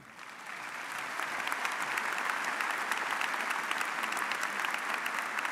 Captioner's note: audience cheering and applauding